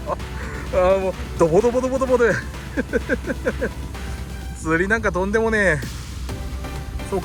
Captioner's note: laughs